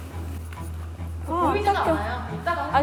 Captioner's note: rubbing